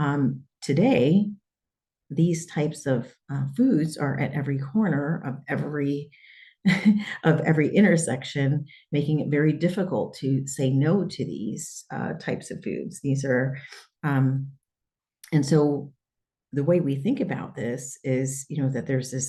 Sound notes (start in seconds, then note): 6.7 laughter